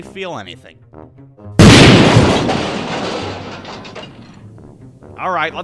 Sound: damn thunderous bang

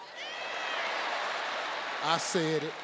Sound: audience cheering; audience laughing

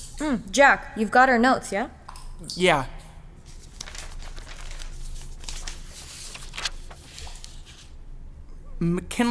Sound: paper rustling

